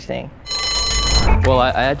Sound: bell ringing

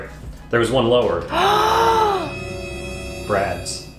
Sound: dramatic music; gasps

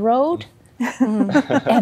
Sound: laughter

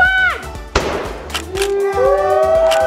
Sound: balloon pops

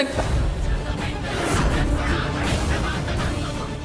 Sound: chant

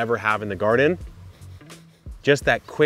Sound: sniffing

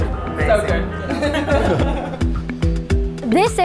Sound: laughs

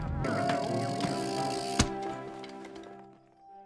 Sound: handle whirring

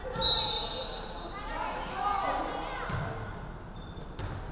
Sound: referee whistling

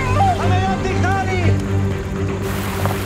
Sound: speaking in Greek

